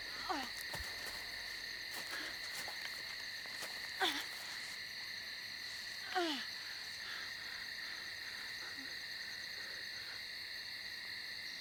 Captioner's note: groaning